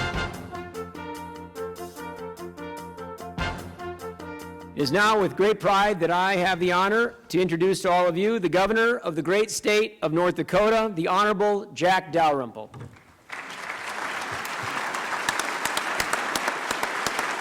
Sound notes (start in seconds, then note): 10.4 applause